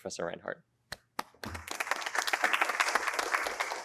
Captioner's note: applause